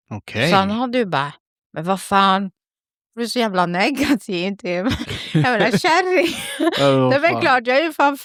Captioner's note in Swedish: skratt